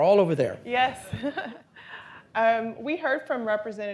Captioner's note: laughs